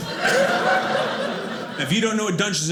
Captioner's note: audience laughing